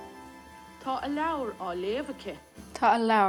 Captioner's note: Rosetta Stone lesson playing